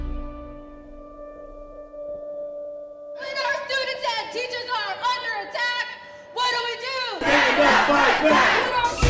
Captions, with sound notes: - When our students and teachers are under attack, what do we do? - [Crowd] Stand up, fight back!